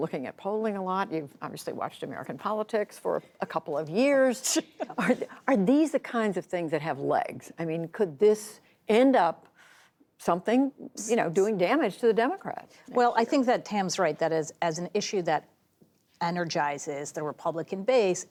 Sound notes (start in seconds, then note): 4.8 laughter